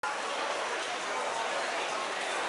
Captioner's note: bustling crowd in canteen